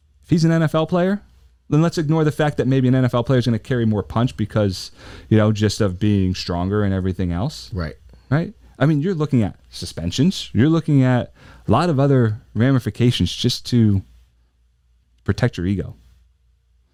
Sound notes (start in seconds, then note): none